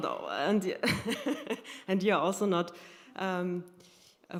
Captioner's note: laughter